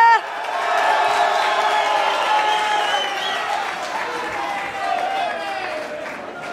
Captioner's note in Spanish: Gritos; Bullicio